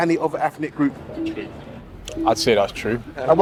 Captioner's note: scoreboard beeps